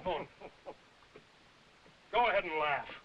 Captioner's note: chuckling and coughing